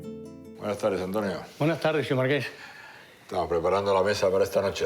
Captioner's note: speaking foreign language